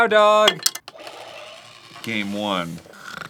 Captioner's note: digital whirring; fake snoring